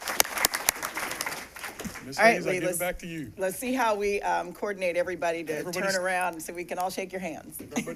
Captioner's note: applause